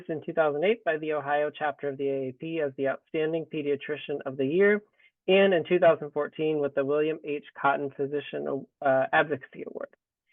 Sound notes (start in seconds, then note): none